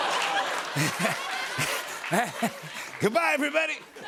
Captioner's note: laughter